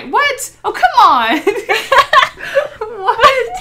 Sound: both laugh

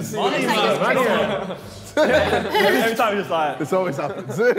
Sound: Sidemen laughing

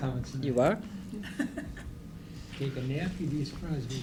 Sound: laughter

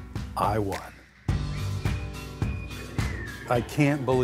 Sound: cheerful whistling

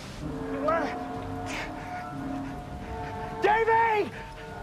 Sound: screaming

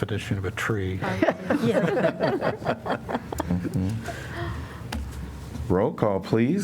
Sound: laughter

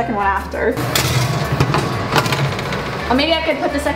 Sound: metal clanking

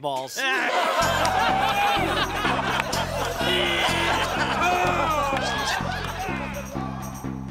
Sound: all laughing

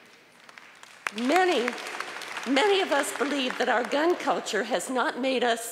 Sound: applause

